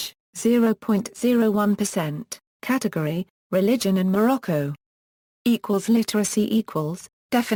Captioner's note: Arabic